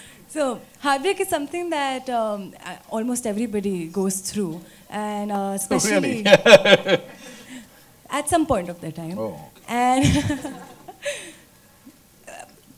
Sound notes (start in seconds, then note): 5.8 laughs; 11.8 laughs